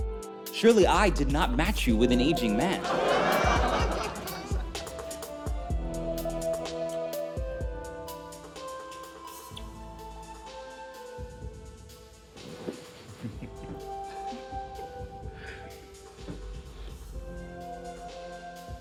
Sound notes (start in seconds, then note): 2.7 laughter; 13.2 laughs